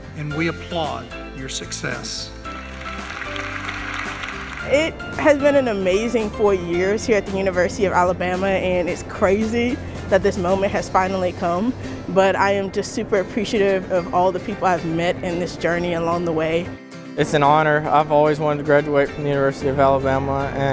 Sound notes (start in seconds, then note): 2.4 audience applauds